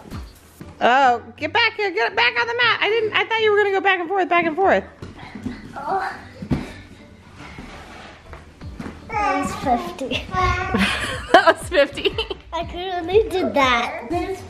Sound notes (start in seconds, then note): 10.7 laughs